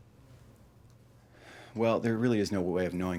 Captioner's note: Dr. Schwazer sighs